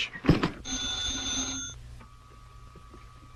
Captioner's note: phone rings